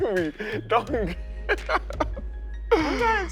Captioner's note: laughs